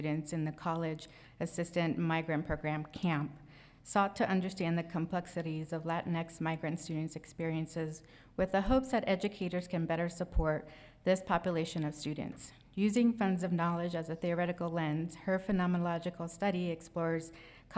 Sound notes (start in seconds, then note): none